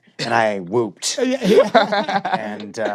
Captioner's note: laughter